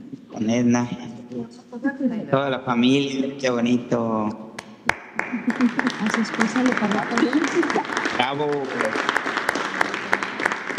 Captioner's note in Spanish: aplausos